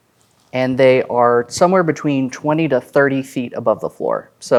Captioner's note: none